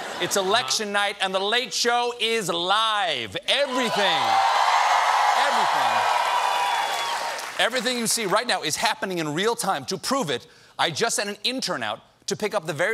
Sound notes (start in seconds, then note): 3.6 cheers and applause